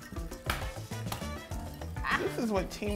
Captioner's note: eggshell cracking